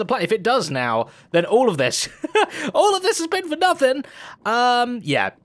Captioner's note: laughs